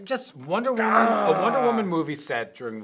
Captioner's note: groans